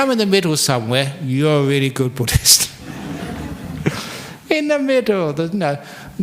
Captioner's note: laughter